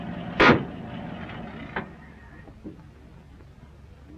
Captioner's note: engine rumbling; gears grinding